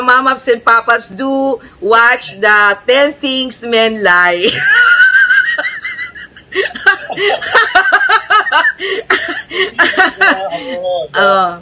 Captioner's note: laughter